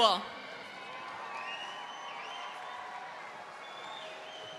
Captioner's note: audience cheering